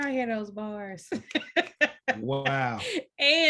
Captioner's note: laughs